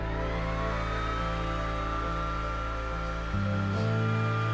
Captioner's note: machine whirring